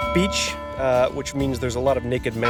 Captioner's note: bell ringing